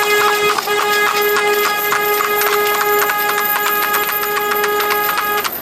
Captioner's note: car horn beeping